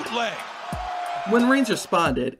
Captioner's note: crowd cheering